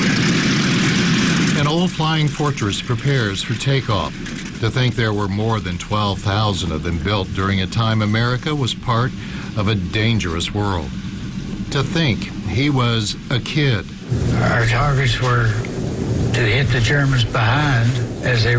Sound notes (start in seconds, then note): 3.4 nats props revving up